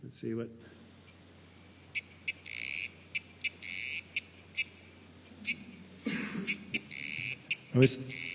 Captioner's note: sound of frog calling